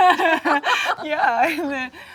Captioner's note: Jung laughs; Sandra laughs